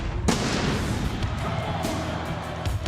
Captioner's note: fireworks booming; rock music